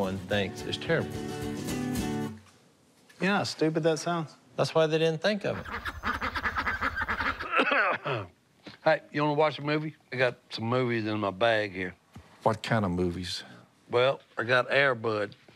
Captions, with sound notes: is terrible. You know how stupid that sounds? That's why they didn't think of it. [ducks quacking] [coughing] Hey, you want to watch a movie? I got some movies in my bag, here. What kind of movies? Well, I got "Air Bud."